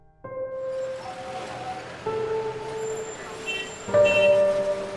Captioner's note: traffic noise